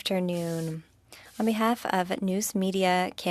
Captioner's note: speaking FRENCH